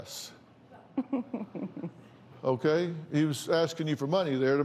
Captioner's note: laughs